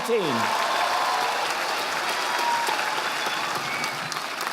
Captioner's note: audience applauding